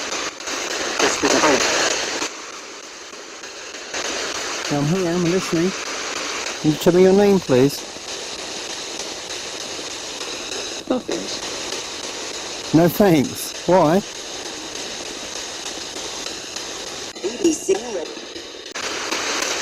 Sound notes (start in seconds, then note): 15.4 ghost box buzzing